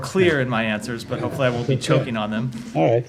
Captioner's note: laughter